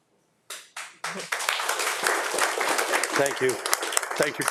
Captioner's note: audience applauding